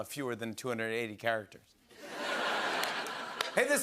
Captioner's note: laughter